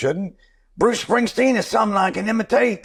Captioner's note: Impersonating Springsteen